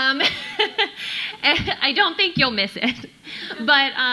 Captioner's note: laughs